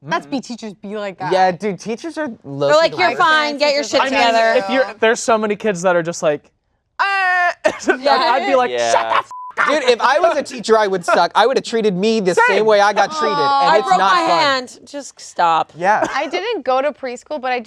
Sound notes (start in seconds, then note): 7.0 yells; 9.2 beep